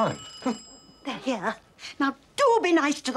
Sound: doorbell

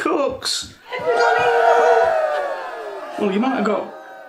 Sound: cheering

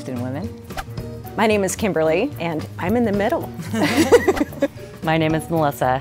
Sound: laughing

